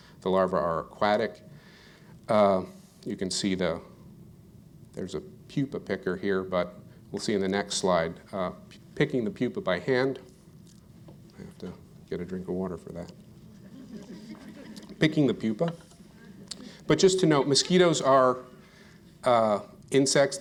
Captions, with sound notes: The larva are aquatic. You can see, though, there's a pupa picture here, but we'll see in the next slide, picking the pupa by hand I have to get a drink of water for that. [Laughter] Picking the pupa. But just to note, mosquitoes are insects.